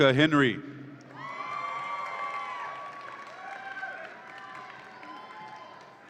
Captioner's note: audience applauds and cheers